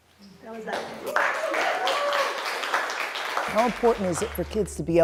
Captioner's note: crowd cheering